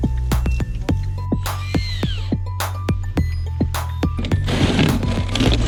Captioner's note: drill whirring; fence thudding